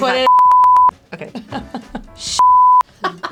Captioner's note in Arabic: صافرة